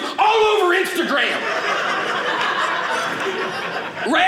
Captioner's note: audience laughing